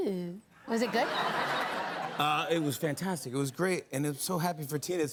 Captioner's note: laughter